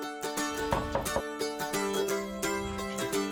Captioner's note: knocking